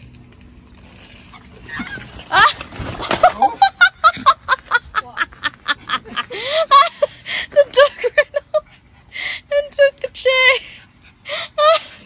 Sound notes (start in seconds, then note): 1.6 exclaims; 1.8 magpie squawks; 2.4 dog makes gruffly noise; 2.9 laughs loudly; 4.7 something falls; 6.2 cackles; 7.2 still laughing